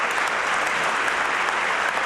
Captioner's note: applause